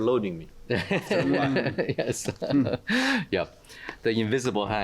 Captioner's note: laughter